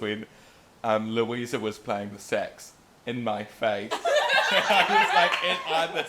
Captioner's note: laughter